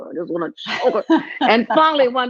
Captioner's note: laughing